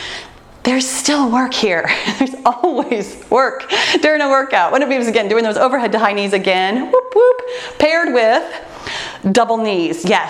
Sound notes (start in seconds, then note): none